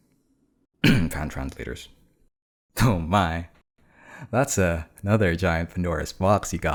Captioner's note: cough